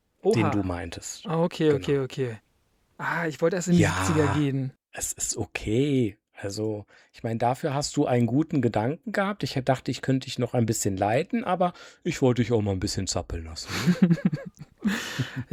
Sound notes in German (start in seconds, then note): 13.6 gelächter